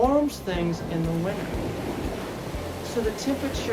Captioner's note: waves crashing